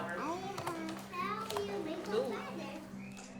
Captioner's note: murmuring